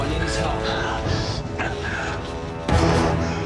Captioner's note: gasping